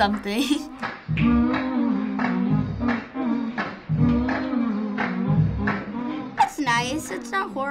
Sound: humming

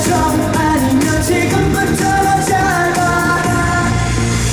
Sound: Taiwan concert starts with the cheering of L.O.Λ.E!

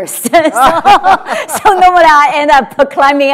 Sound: laughter

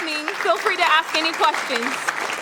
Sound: applause

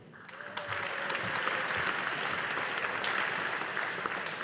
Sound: audience applauding

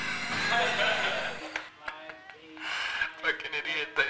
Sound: breathy laughter

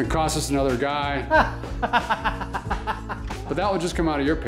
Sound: laughs

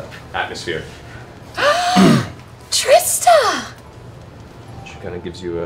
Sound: gasps

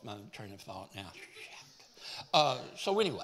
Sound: whispering

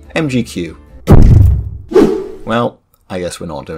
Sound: thud woosh

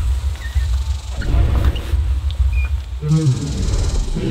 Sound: dinosaur sound

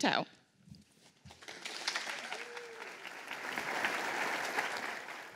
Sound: applause

